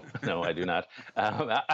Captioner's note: laughter